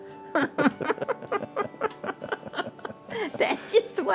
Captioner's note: laughs